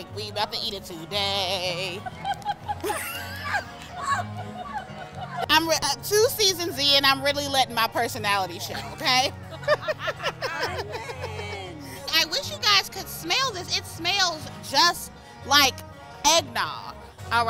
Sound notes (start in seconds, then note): 1.9 laughing; 9.4 all laughing